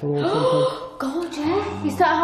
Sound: gasps

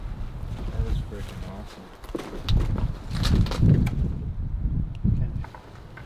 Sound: none

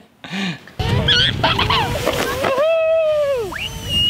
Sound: laughing; cheering

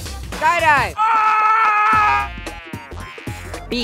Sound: screaming

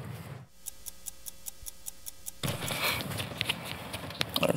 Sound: ticking

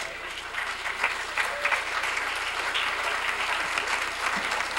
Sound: applause

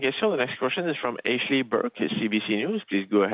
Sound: speaking French

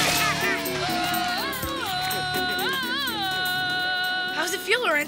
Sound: yelling like Tarzan

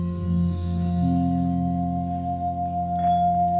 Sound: glassy metallic sounds

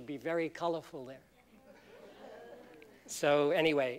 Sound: laughter

